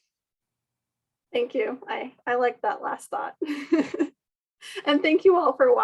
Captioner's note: laugh